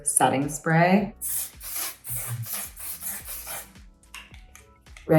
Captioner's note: atomizer hissing